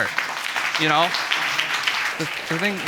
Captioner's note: audience applauding